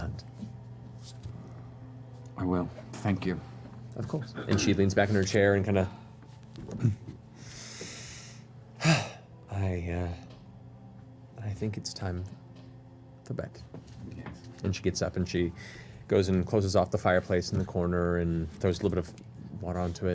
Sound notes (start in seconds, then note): 8.8 sighs